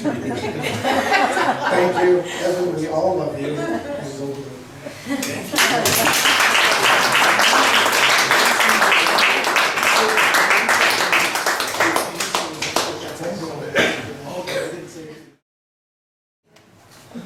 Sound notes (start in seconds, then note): 0.2 laughs; 4.6 laughs; 7.4 guests applaud